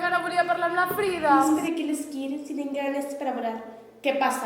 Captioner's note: mocking